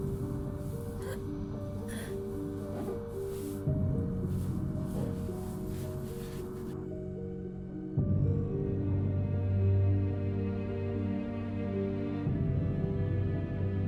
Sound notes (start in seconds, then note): 1.8 gasps; 4.4 slow tense ambient music